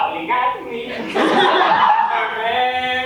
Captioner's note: audience laughs